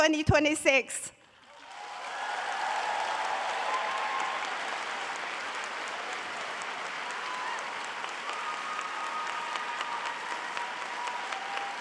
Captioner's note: audience applauding and cheering